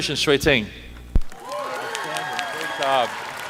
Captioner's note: applause